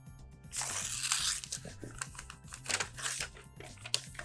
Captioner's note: paper ripping